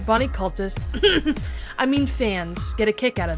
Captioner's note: cough